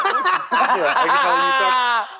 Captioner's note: laughter